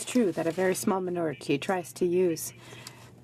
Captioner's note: speaking French